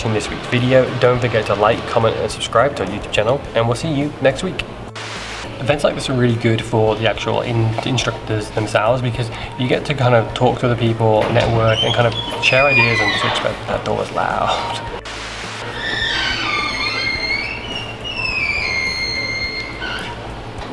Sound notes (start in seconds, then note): 15.6 door squeaks; 18.6 door keeps squeaking